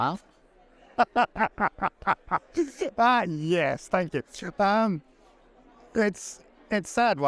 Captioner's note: laughing